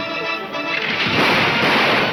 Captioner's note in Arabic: إطلاق النار